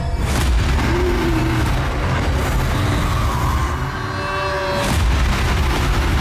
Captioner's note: intense ominous music; monster growling